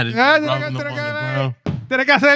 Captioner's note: speaking In Foreign Language